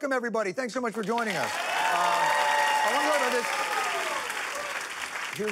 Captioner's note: applause